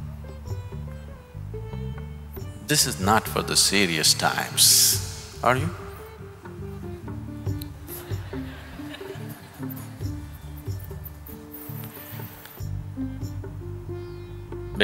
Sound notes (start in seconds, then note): 7.9 laughter/Laughs